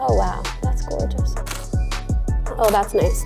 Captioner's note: camera shutter clicking